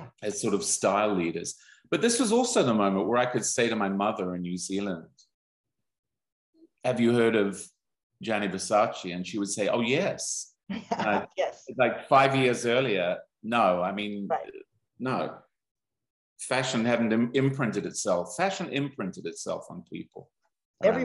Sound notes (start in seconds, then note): 10.7 laughs